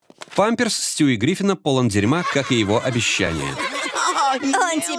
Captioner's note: kids s laughing